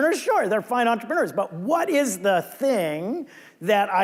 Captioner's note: none